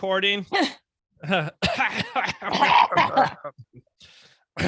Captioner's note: coughing